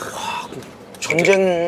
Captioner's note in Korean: 한숨